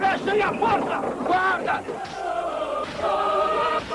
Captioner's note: shouting